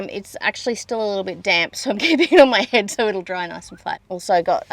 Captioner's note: laughing